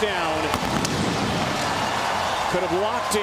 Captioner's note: cheering